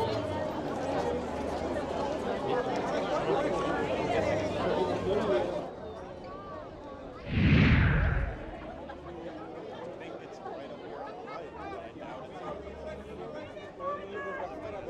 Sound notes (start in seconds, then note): 7.2 air whooshing